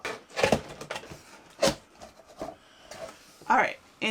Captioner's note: box opening